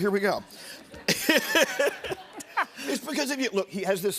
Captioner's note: laughs